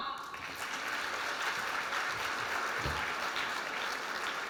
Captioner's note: applause